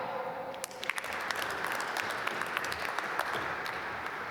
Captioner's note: applause